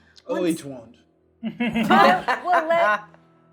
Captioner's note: laughing